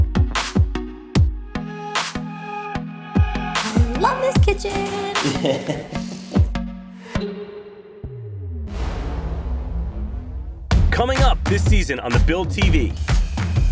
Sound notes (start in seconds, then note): 0.0 urban music playing; 5.7 laughs